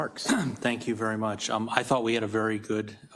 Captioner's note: cough